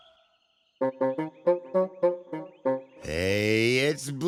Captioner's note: hooting